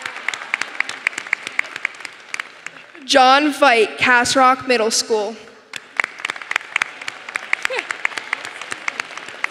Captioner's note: applause